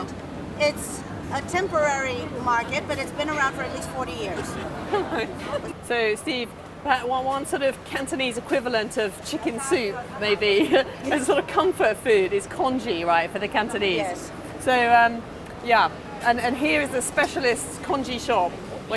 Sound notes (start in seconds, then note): 4.3 laughter